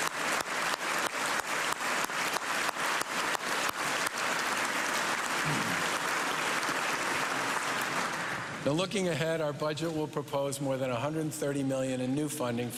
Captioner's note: cheers and applause